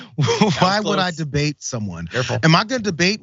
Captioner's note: laugh